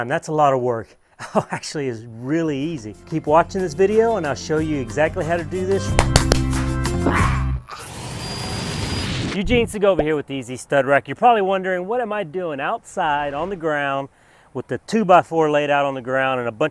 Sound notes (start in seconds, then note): 5.9 clapping; 7.7 saw whirring